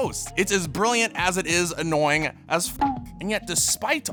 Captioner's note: beeps